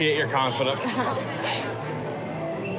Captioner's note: laughs